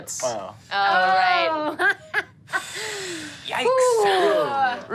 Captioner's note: laughs